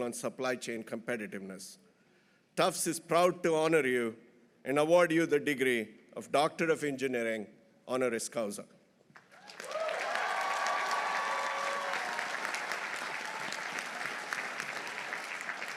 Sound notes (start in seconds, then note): 9.2 audience applauding; 9.3 audience cheering